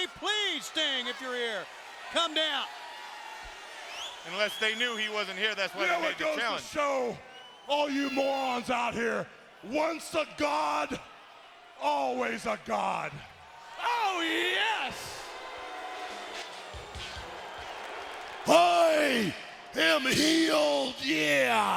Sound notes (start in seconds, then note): 3.8 attendee whistling